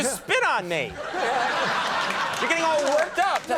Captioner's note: audience laughs